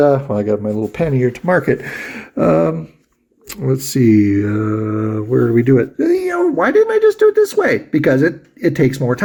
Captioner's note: mutters